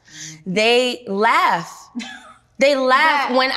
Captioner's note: chuckles